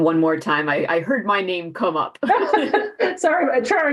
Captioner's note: laughs